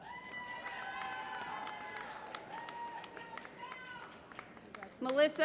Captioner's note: applause